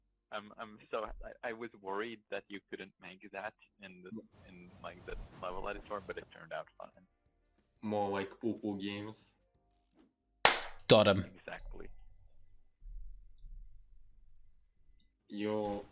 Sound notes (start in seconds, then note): 10.4 clap